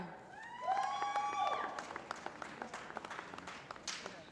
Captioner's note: applause